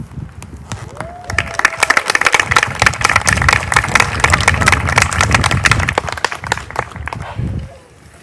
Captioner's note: applause